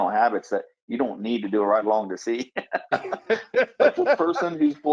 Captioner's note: laughs